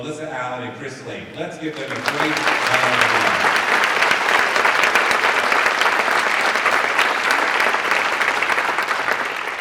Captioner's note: applause